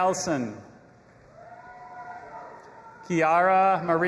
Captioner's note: audience applauding and cheering